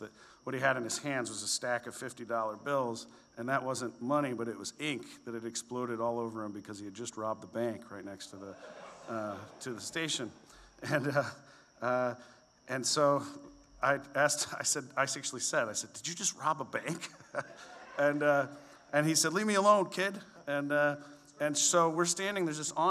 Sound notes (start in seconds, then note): 8.4 audience laughs; 16.9 laughs